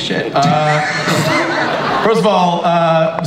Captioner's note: audience laughs